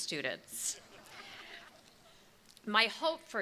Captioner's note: crowd chuckles